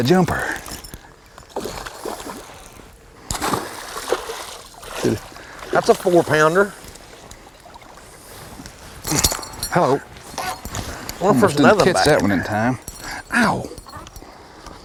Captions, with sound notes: a jumper [splashing] [Splash] [Splashing] that's a four-pounder hello! I wonder if there's another back there. oah!